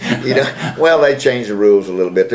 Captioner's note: laughter